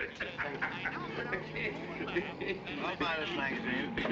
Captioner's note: Mr. POTTER LAUGHS